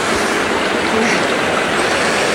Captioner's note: laughing